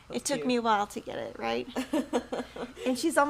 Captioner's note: laughs